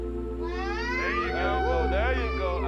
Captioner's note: screams